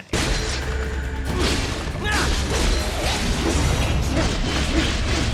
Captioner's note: weapons clanging